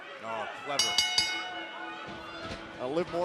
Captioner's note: bell ringing